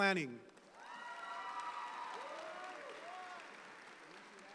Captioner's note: audience applauds